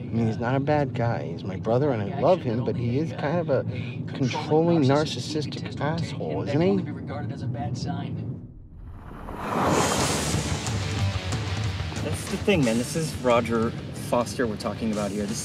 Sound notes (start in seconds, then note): 8.7 air whooshing; 10.0 upbeat music